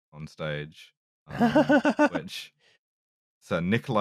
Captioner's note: laughs